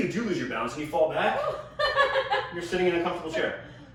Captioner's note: laughing